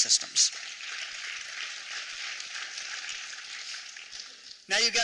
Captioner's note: applause